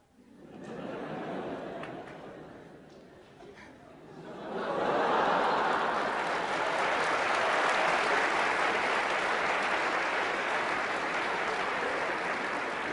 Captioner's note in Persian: خنده‌ و تشویق حضار